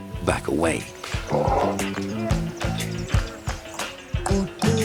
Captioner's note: elephant growling; speaking foreign language